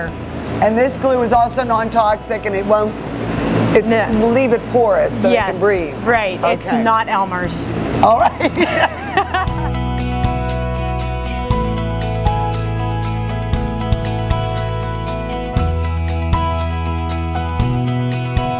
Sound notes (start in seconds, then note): 8.1 laughing; 10.2 hopeful music